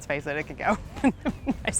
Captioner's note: chuckles